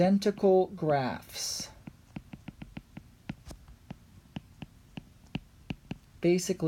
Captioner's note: writing